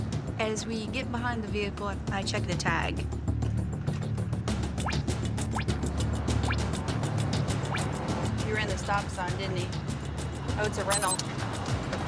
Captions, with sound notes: As we get behind the vehicle, I check the tag. (tires screech) He ran the stop sign, didn't he? -Oh, it's a rental. -(siren wailing)